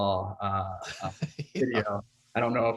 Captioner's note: laughs